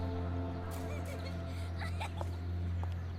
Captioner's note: laughing